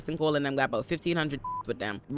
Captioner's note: beep